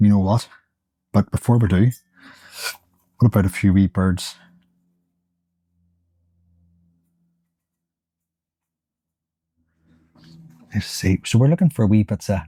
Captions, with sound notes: You know what? But before we do, we'll put a few wee birds. [Silence] Let's see. So we're looking for wee birds.